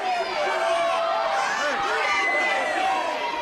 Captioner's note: crowd cheering